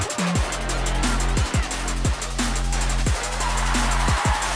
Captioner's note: crowd applauding